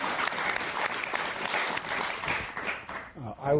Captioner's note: applause